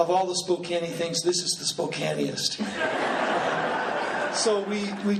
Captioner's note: laughing